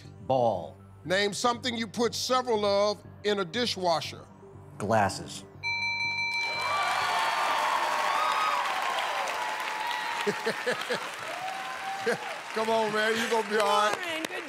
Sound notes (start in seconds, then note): 5.6 bell rings; 6.4 cheers and applause; 10.2 laughs